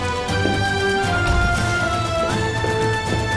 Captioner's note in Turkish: Kapı açılma sesi